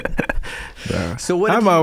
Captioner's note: laughing